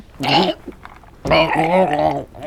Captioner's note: chokes